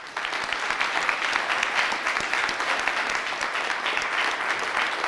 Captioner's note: audience clapping